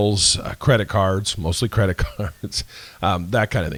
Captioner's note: laughs